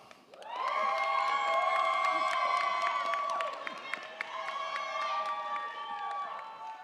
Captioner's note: crowd clapping; crowd cheering